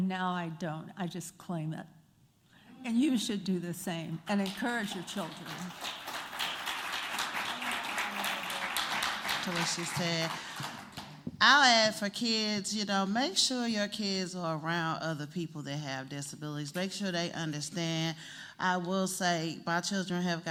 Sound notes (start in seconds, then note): 5.6 applause